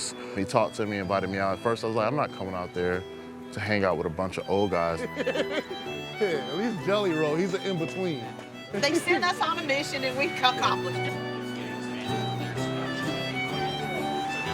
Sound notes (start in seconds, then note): 4.8 friend laughs; 11.0 fiddle music